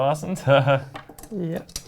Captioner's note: laughs